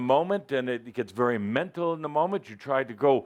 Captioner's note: none